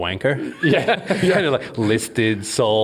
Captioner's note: all laugh